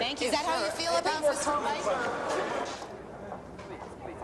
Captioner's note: all chattering